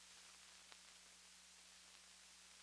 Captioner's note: none